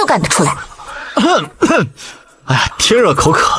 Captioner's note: cough cough